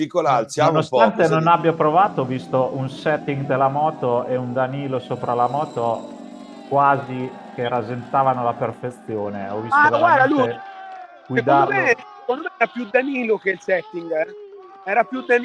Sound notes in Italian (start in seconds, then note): 10.5 Applauso